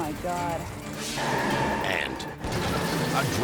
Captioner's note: tires squealing